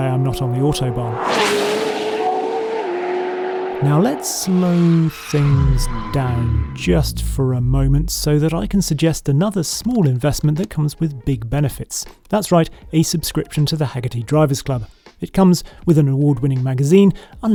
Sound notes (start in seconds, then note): 1.7 car revving